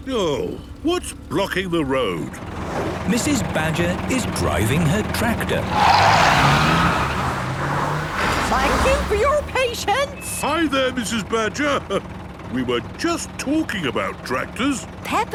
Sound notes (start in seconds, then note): 6.0 tires screeching